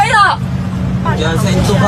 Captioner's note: crowd muttering